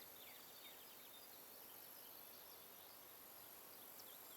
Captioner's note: birds chirping